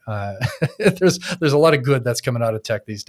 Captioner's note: laughing